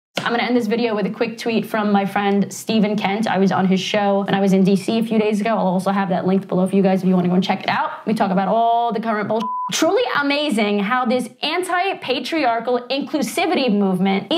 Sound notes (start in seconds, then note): 9.4 beep